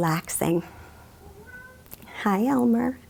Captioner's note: cat meowing